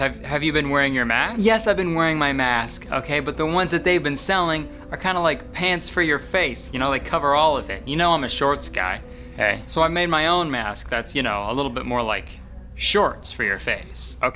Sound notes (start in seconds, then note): none